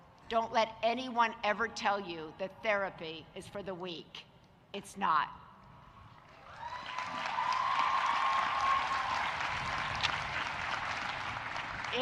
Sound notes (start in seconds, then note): 6.3 audience cheering and applauding